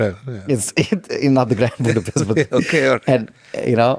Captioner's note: laughs